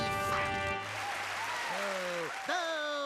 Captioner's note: crowd cheering; booing